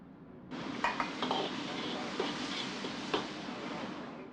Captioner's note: flames whooshing